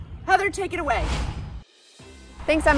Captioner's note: logo whooshing; upbeat music